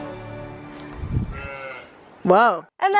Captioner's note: sheep bleats; voiceover